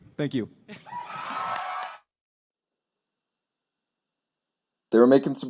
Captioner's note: cheering